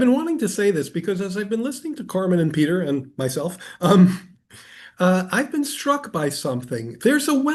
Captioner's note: laughs